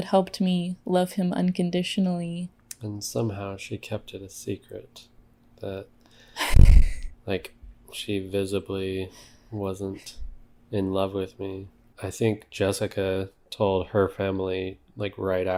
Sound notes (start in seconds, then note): 10.9 laughs